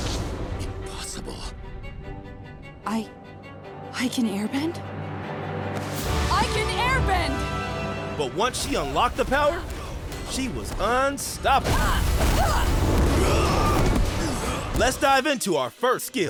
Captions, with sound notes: Impossible. I... I can airbend? I can airbend! But once she unlocked the powe, she was unstoppable. [grunting] Let's dive into our first kill.